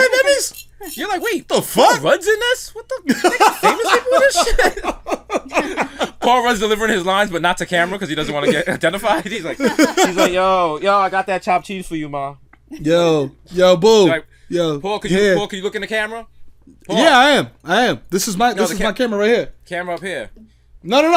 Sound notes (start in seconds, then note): 5.0 laughs; 7.8 laughter